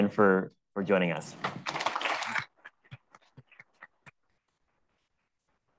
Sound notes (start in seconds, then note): 1.6 attendees applauding